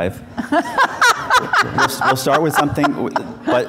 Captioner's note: laughing